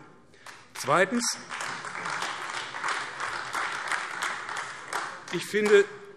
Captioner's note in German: Beifall AfD